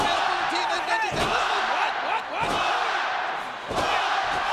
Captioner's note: audience cheering